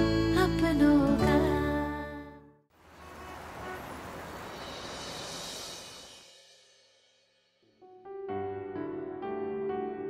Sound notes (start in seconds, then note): 4.8 traffic sound